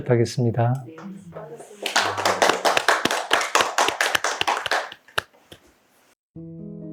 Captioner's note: applause